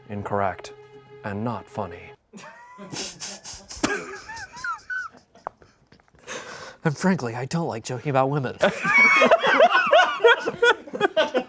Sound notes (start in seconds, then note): 2.4 everyone laughs; 8.6 laughs